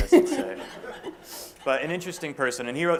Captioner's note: laughter